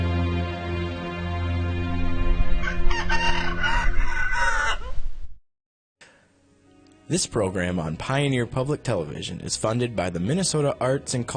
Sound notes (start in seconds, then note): 4.3 rooster crows; 8.8 voiceover